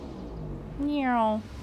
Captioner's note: mimicking noises